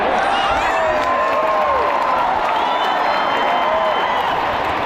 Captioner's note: crowd cheering